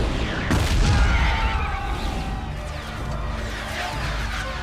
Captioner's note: all clamoring